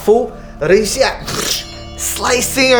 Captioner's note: scythe strike